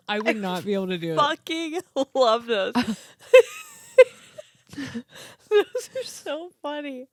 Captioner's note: laughing